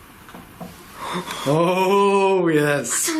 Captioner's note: gasping